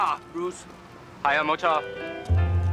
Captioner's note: speaking Mandarin